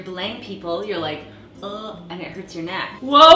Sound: groaning

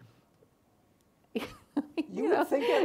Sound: laughs

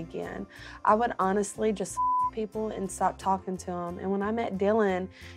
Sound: beep

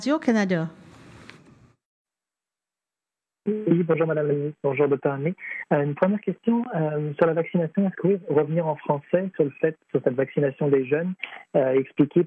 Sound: speaking French

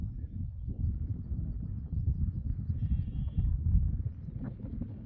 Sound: wind blowing

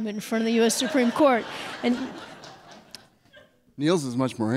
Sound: audience laughs

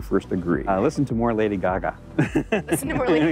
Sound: laughs

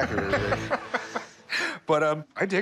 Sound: laughs

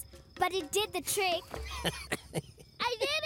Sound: laughing

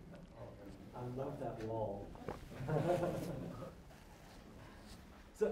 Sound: laughter

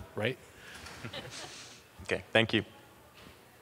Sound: laughing

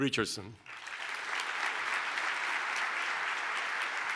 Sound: applause

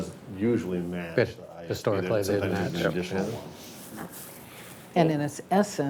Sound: board members conversing

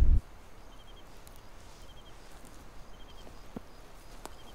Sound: crickets chirping

